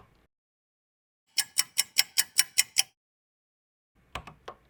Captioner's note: ticking clock